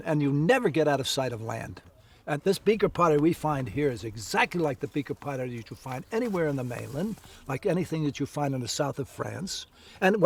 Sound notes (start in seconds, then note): none